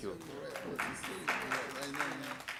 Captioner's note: applause